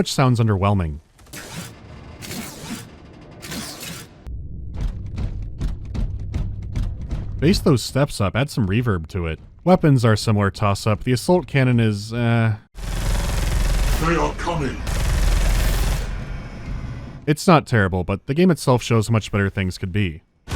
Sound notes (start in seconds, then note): 1.3 shwoosh-shwoosh-shwoosh; 4.3 muffled footsteps